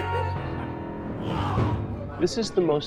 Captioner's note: laughing; groaning in anguish